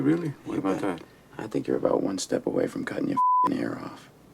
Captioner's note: beeping